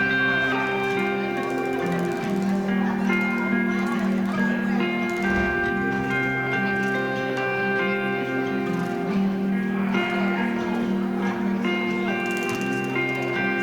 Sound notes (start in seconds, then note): 0.1 people chattering; 11.1 piano music